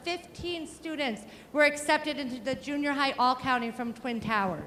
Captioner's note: none